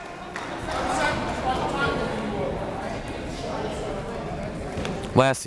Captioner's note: crowd members talking